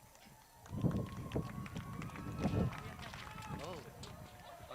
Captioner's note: crowd cheers